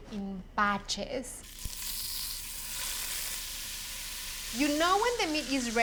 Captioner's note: sizzling